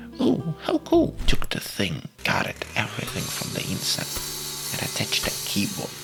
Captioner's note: as construction noises are created